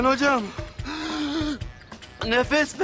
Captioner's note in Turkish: Nefes sesi